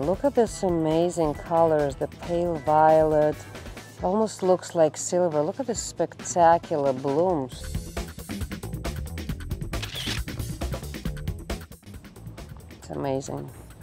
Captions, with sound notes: Look at this amazing colors, the pale violet, almost looks like silver, look at this spectacular blooms. (upbeat music) (camera shutter whirring) It's amazing.